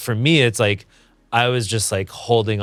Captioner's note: none